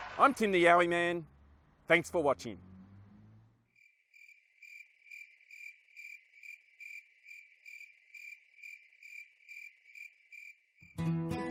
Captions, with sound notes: I'm Tim the Yowie Man. Thanks for watching! [Crickets chirping]